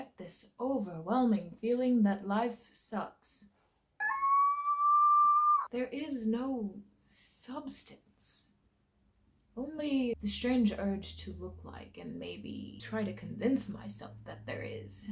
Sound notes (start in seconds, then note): 4.0 screams in overwhelm